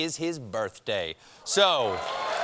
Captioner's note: applause